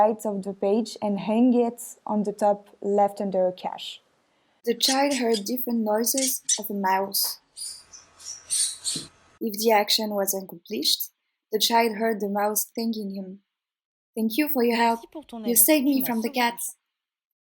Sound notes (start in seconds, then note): 8.3 mouse squeaking